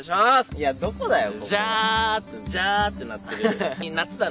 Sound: immitating the sound of cicadas

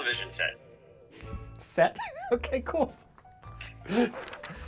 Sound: snickering

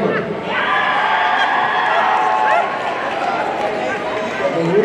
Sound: audience cheering

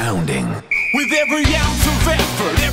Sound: whistle blows

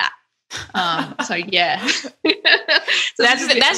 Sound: laughing

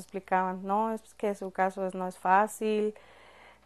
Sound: speaking Spanish

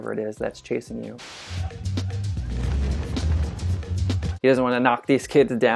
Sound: fast paced music; dramatic jumping sounds

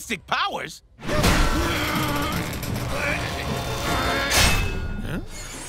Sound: grunting

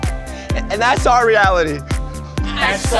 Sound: crying

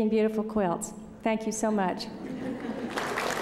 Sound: applause

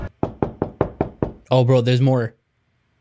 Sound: knocking on door

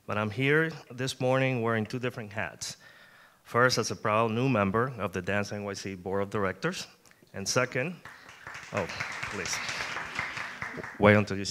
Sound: applause

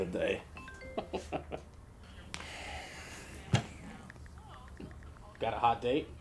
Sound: phone chiming; Gerard laughing

